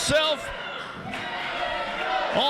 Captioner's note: crowd cheering